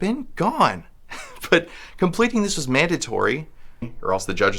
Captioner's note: chuckles